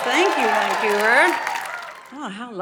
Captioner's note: audience cheering